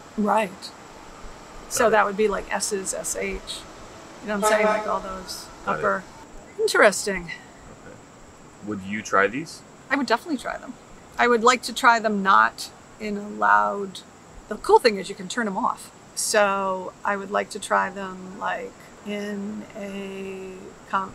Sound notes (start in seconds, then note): 4.2 vehicle honks